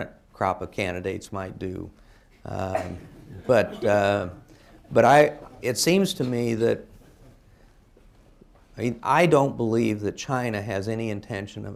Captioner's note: laughter